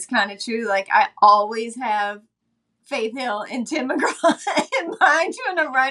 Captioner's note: laughing